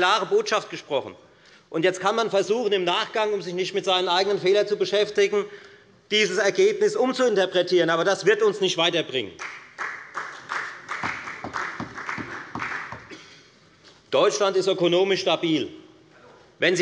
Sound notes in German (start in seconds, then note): 9.4 Beifall